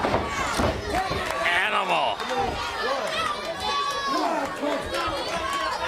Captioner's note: crowd chatter